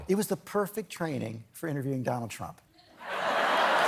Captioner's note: laughter